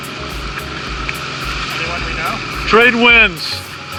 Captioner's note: yells